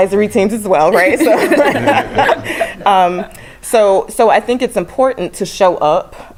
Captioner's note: laugh